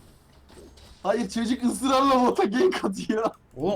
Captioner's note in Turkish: gülüşmeler